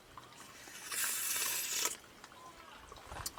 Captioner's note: slurp